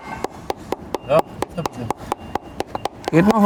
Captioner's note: answers quietly